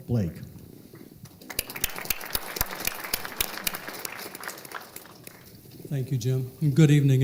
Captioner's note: applause